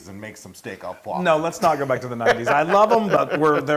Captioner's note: laugh